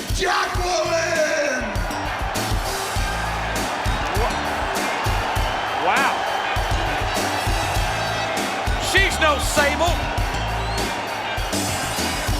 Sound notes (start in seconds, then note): 1.6 crowd cheering; 1.6 funky music